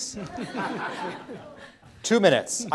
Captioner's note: laughter